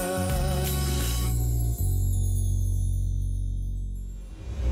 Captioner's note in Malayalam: none